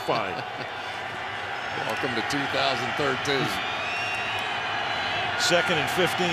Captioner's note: laughs